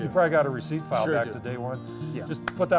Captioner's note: murmurs